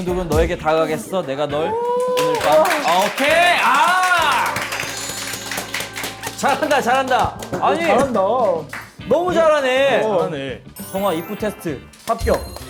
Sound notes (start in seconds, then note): 4.6 Applause by noonas